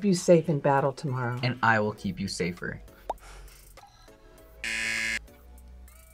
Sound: buzzer

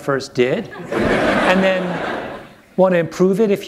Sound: laughter

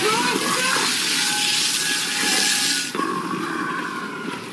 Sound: distorted

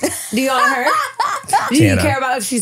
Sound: laughing

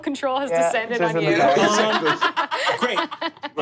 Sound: laughing

